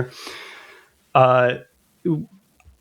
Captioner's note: uh